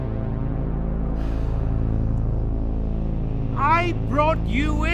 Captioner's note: Carling sighs